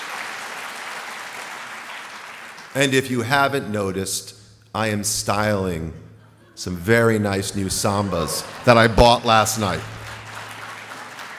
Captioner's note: applause